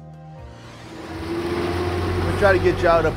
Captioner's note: logo whooshes; boat engine roars